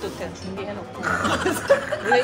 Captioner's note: laughter